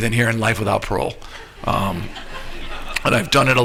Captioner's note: laughter